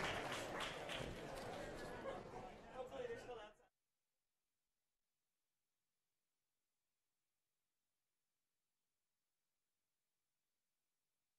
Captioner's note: applause